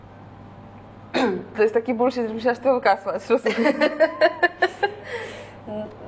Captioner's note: laughs